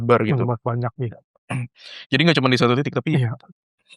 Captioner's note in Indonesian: berdehem